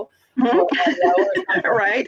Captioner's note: laughs